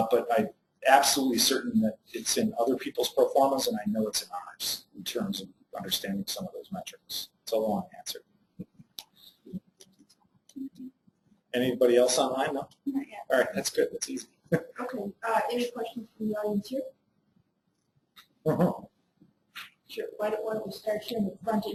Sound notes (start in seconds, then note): 14.7 laugh